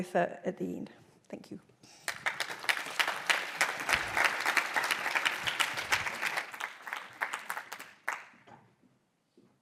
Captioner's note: applause